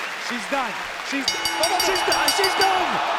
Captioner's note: bell rings